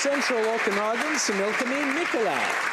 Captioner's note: applause